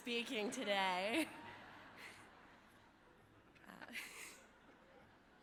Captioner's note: audience laughing